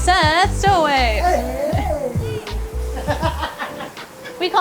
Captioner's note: laughs